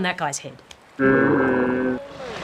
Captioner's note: slow motion roaring